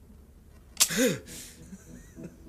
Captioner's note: light clicking; man groaning; man laughing